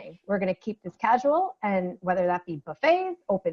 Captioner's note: none